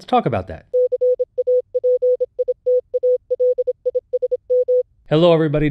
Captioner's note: letters beeping successively